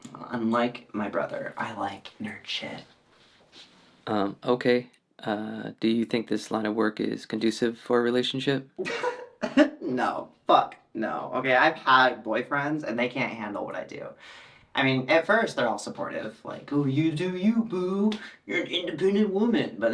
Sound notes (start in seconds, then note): 8.8 Taylor laughs